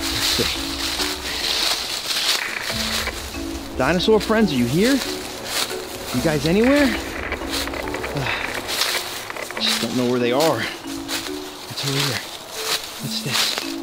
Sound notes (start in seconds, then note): 0.1 footsteps rustle; 2.6 static crackles